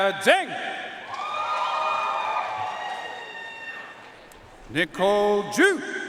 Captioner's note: audience cheering and applauding